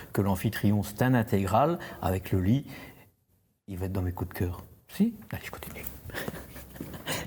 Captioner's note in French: rires